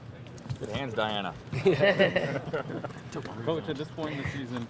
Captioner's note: laughter